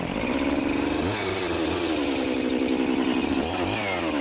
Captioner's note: chainsaw sounds